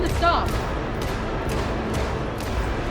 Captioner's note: gunshots